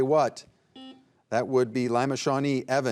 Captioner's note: buzzer buzzing